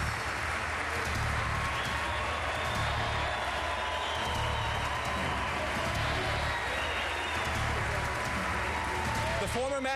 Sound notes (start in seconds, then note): 4.1 applause